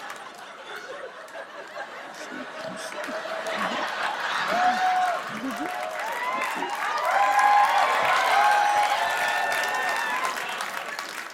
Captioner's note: laughter; cheers and applause